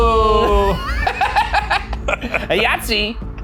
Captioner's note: cackles